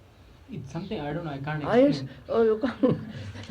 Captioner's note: laughs